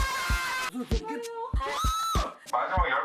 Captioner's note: the sound of a pterodactyl